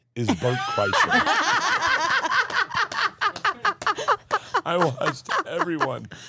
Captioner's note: everyone laughing